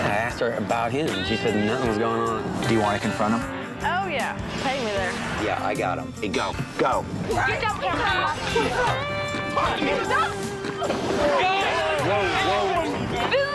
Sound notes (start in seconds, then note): 9.2 shouting